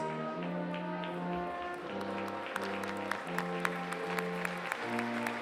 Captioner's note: applause